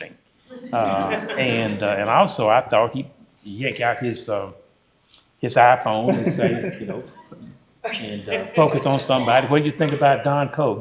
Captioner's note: laughter